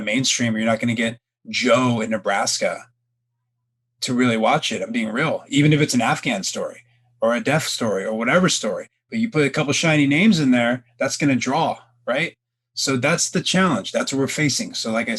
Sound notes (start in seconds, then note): none